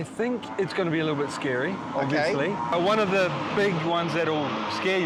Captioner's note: none